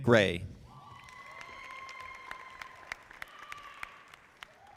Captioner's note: audience applauding